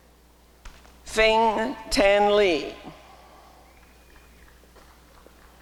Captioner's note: applause and cheering